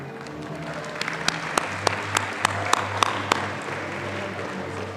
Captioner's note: audience applauding